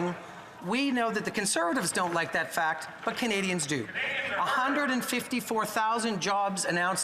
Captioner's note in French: voix de l'interprète